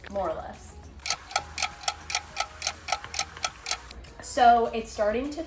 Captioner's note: clock ticking